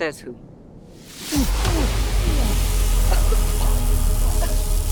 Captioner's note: whooshing; coughing